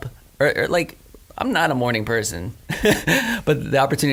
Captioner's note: laughs